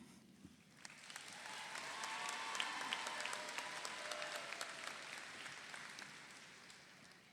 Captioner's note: audience applauds; audience cheers